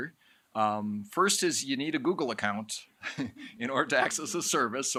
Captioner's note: chuckles